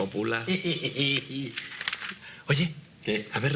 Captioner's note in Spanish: risas